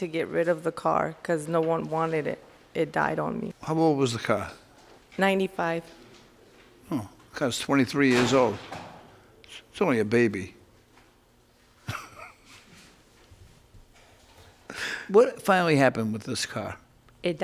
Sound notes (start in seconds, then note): 11.8 man laughs